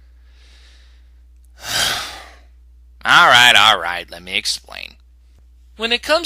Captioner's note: sigh